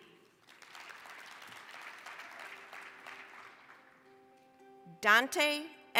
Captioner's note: applause